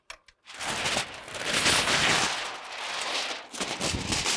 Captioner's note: paper rustling